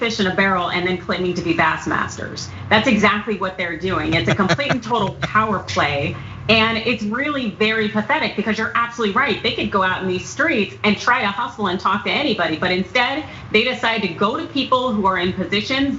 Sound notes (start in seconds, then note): 4.0 laugh